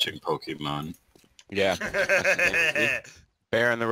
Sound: laughs

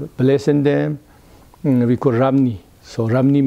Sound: in Tibetan

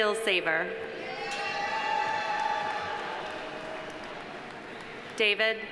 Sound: audience cheering; audience applauding

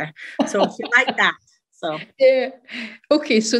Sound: laughs

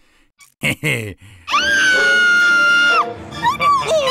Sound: screaming

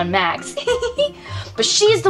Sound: giggles

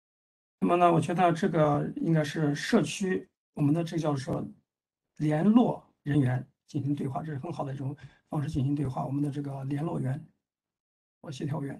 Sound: speaks in Mandarin

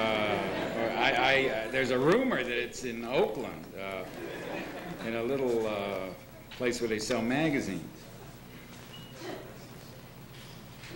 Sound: laughter

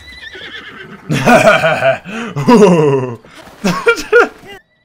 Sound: giggle

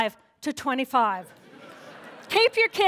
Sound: laughter

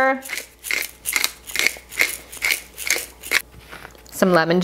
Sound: pepper grinder creaking

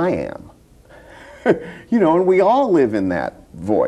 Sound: laughs

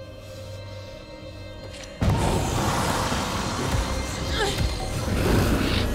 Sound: Luther grumbling; dramatic music; suspenseful music

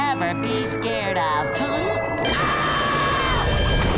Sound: screaming

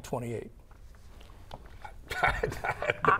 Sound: laughing

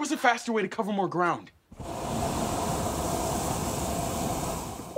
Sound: air blowing

